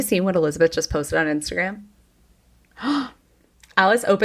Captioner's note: gasps